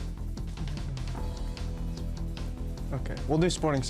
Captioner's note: intense music; whispering